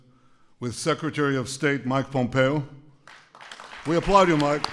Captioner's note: applause